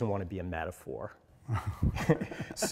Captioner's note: laughter